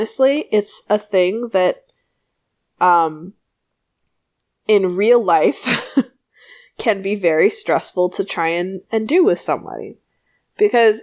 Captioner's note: laughs